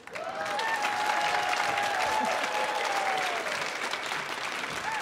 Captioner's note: audience applauding